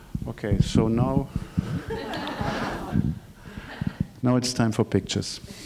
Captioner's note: laughing